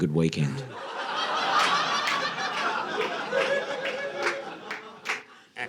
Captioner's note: audience laughing